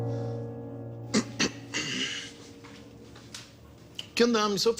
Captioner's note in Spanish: Carraspea